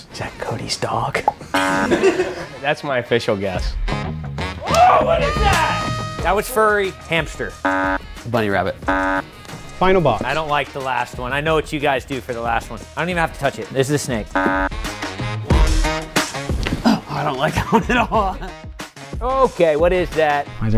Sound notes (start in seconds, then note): 1.5 buzzer; 8.8 buzzer; 14.3 buzzer